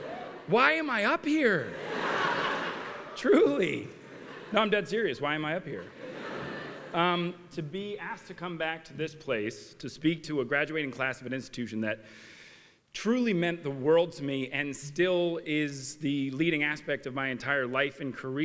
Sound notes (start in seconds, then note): 1.7 laughter